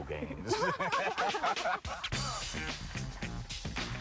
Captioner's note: laughter